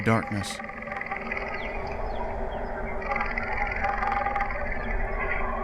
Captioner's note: leopards growling